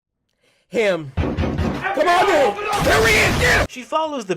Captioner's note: loud knocking